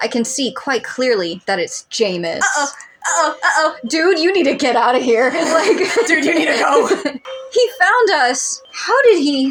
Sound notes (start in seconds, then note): 5.7 laughing